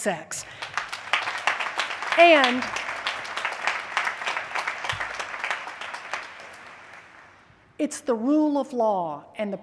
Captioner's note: applause